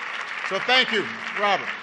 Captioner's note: applause